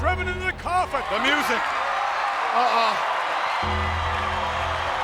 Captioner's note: ominous music; audience cheers